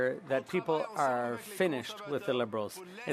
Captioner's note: speaking French